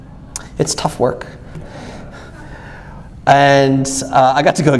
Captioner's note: laughs softly